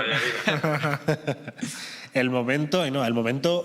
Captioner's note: laughter